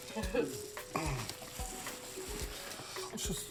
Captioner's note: chuckles; clears throat